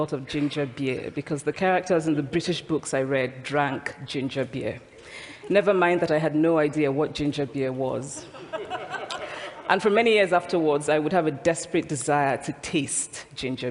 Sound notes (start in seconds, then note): 8.1 laughter